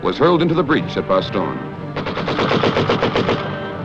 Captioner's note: gunshots